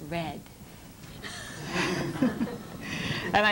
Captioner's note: laughter